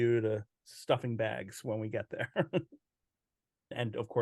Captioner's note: chuckles